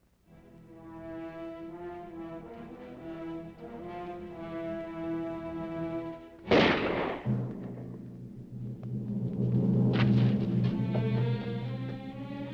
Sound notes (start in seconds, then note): 0.4 dramatic music; 6.4 gun firing; 9.6 dramatic music